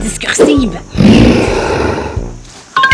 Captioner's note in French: grognement animal